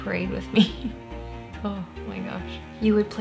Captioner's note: laughs